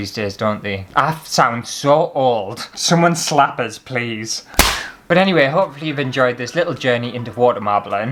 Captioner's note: slap!